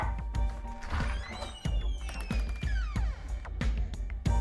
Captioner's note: creaking